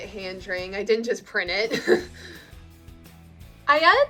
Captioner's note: laughs